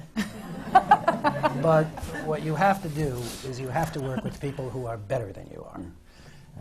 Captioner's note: laughter